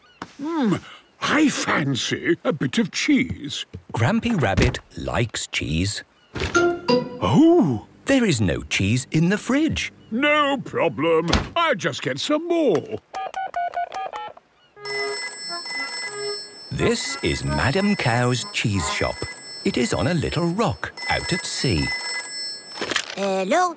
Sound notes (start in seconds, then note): 12.9 dial tone; 14.6 phone rings